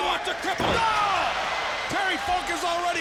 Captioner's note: audience cheering